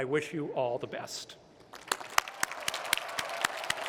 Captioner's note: applause